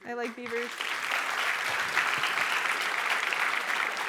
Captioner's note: applause